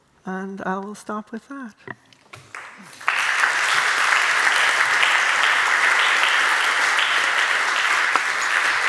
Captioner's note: applause